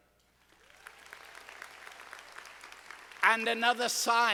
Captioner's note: audience applauding